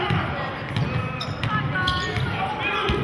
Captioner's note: yelling